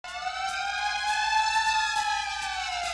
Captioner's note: siren